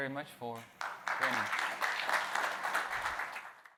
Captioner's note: audience applauds